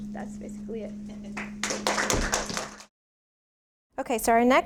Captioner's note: applause